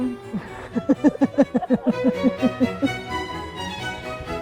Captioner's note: laughing